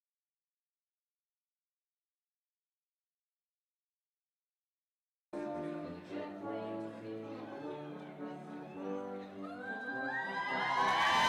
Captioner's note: cheers and applause